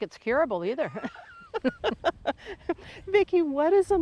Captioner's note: both chuckling